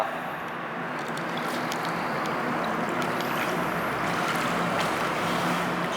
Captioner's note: water surface sliding